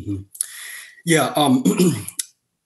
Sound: clears throat

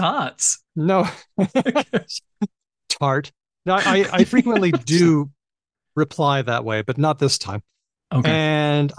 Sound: laughs; laughs

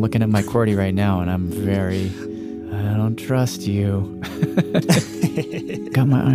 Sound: laughs

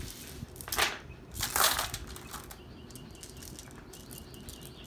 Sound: marbles clanging

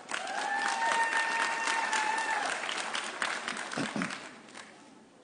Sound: audience cheering

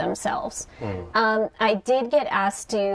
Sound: sounds of agreement

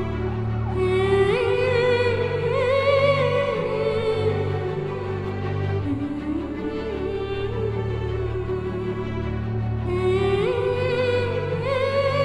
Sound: 𝅘𝅥𝅮 Humming 𝅘𝅥𝅮

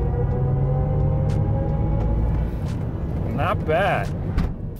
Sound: motor whining increases

